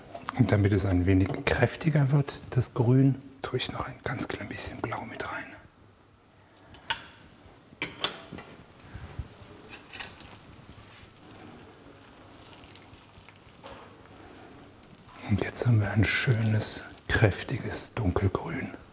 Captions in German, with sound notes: Damit es ein wenig kräftiger wird, das Grün, tu ich noch ein ganz klein bisschen Blau mit rein. (Scheppern) (Klebrige Geräusche) Und jetzt haben wir ein schönes, kräftiges Dunkelgrün.